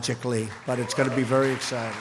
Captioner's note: applause